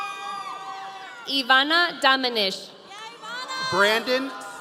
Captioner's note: audience cheering